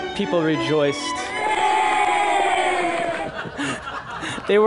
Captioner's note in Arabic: هتاف